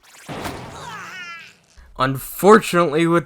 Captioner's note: Mineta groans in pain